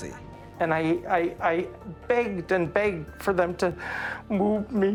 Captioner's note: voice cracking